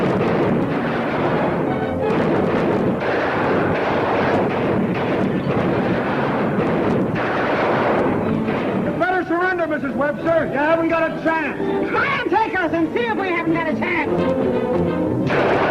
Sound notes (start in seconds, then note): 0.1 gunshots ringing out; 15.2 gunshots ringing out